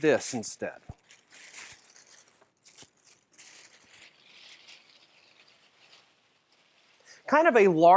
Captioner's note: squishes paper